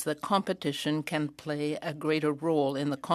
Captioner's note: speaking French